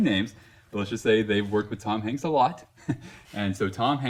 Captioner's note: laughs